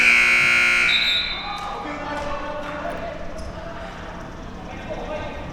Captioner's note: buzzer sounding; whistle being blown